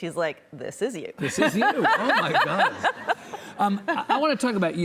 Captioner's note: laughing